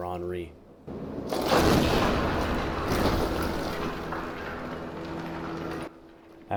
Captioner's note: sounds of debris falling into place; thunderous explosion